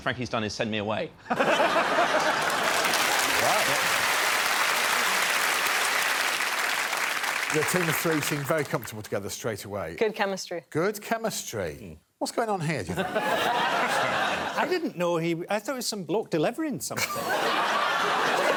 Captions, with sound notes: So the first thing Frankie's done is send me away. [laughter] [cheering and applause] The team of three seemed very comfortable together straight away. -Good chemistry. -Good chemistry. What's going on here d'ya think? I didn't know he-- I thought it was some bloke delivering something.